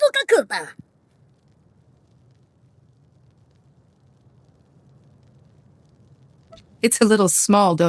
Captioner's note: speaking foreign language